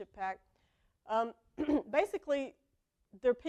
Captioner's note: cough